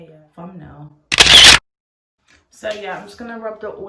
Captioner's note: camera shutter clicks